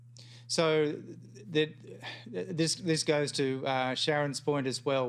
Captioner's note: sighs